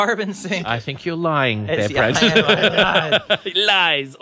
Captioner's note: laughs